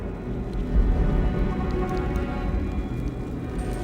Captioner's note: crackling